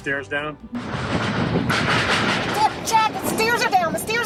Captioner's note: stairs clanking